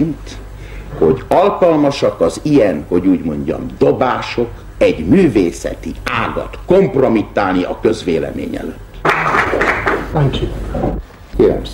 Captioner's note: applause